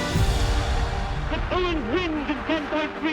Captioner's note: speaking in German